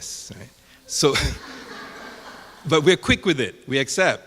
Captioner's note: audience laughing